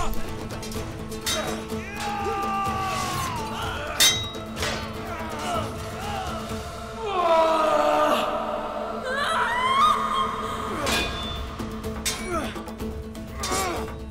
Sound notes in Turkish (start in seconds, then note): 9.1 Çığlık sesi; 11.0 Müzik - Dombra